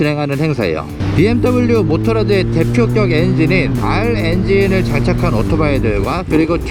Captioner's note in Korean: 실제 r박서 엔진 소리